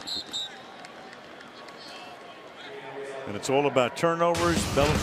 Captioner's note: whistle